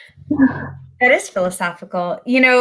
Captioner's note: laughs